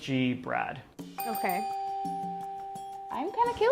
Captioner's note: dinging